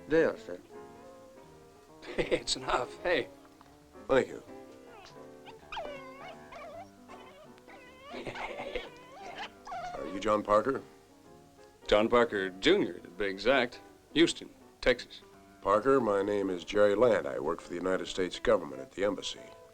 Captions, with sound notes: There, sir. Hey, it's enough. Hey. Thank you. [DOG WHINING] Hey. Are you John Parker? John Parker, Jr., to be exact. Houston, Texas. Parker, my name is Jerry Land. I work for the United States government at the embassy.